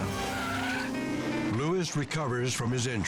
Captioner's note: tires screeching